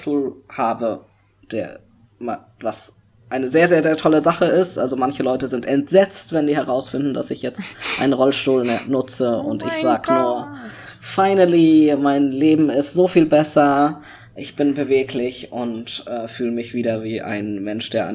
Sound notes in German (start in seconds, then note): 8.5 sakastisch im hintergrund: oooh mein goott